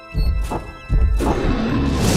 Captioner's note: dragon roars